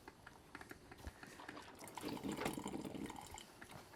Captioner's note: coffee maker starts